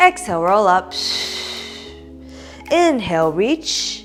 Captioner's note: exhaling